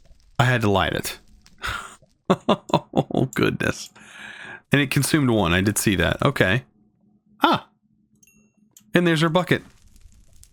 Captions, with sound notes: Had to light it (laughs) Oh goodness and it consumed one I did see that okay, huh? And there's our bucket